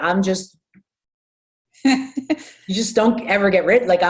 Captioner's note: laughs